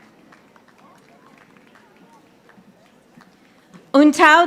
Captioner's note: audience applauding